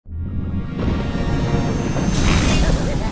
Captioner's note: thunder crashing; Orange laughing